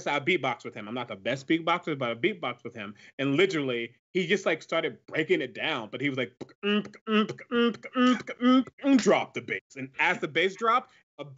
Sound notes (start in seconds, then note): 6.0 beatboxes